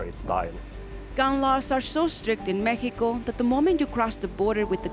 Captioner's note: voiceover